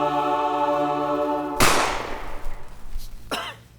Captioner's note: gunshot